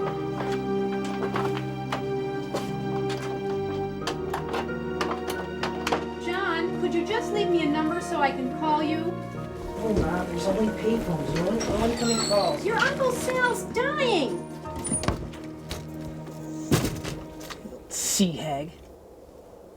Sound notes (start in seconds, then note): 2.1 soft suspenseful music continues; 14.6 door creaks and thuds